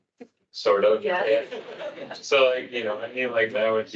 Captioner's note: attendees laughing